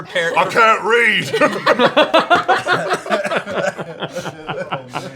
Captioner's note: laughter